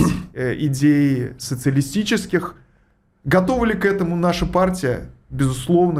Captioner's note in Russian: откашливается